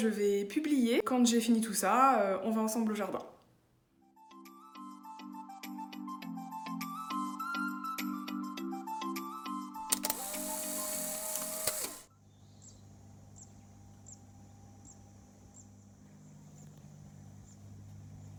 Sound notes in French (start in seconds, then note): 9.8 bruit d'appareil photo; 12.0 bruit de la nature